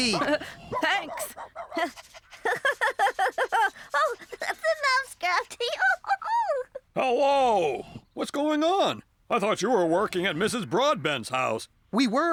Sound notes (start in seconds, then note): 0.0 chuckles; 0.0 giggling